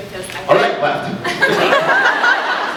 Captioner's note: laughs